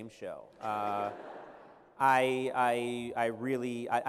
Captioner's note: laughter